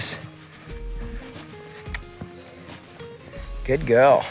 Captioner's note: mouth clicking